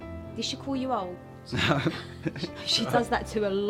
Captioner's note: laughing